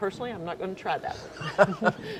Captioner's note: laughs